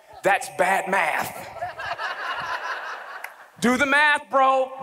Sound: audience laughs

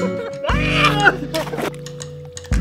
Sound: laughter; elevator music; screaming

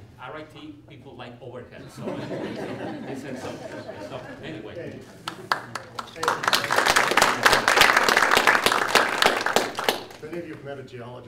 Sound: clapping

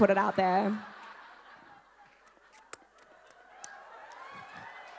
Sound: audience laughing

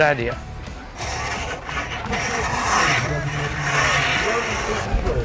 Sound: rake scraping ground

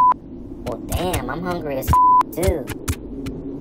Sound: beep

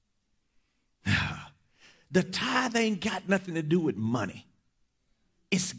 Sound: sighs

